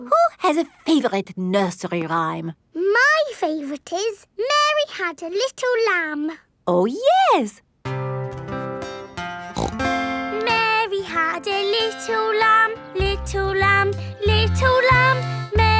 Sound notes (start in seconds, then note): 7.8 playing guitar; 9.5 snorts